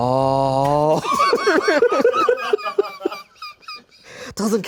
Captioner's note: everyone laughs